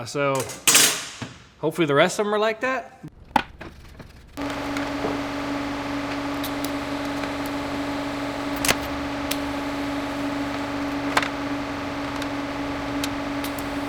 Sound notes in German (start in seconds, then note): 4.4 Maschine läuft